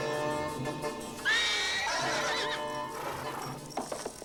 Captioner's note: horse neighing